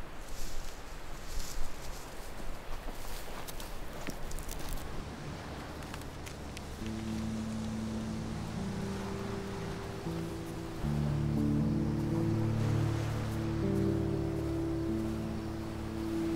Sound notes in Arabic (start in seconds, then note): 4.5 الموسيقى الهادئة; 9.3 موجات الرياح والمحيطات